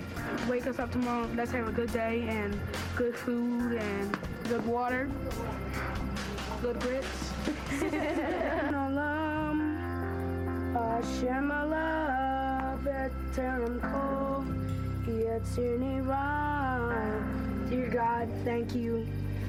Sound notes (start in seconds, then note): 9.1 praying